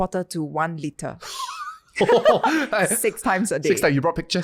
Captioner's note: laughing